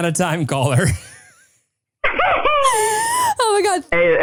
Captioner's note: laughing